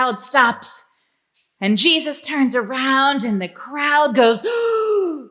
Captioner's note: gasp